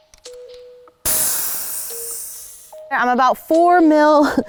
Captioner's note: shock air deflating